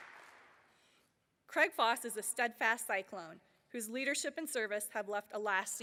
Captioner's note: applause